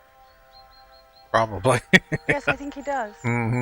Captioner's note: chuckling